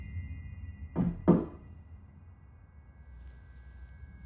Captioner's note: door knock